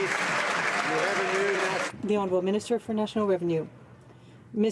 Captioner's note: some Applause